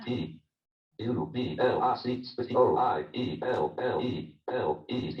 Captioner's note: JAWS speaking disjointedly